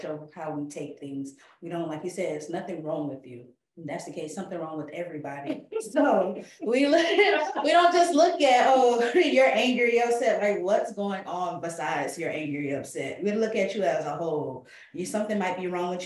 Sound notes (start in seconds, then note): 5.4 laughing